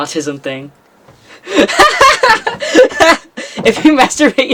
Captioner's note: laughs